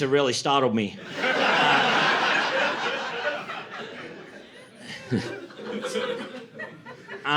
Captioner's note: laughter